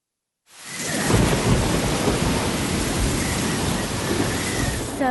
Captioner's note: thunder rumbling